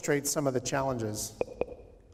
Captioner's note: popping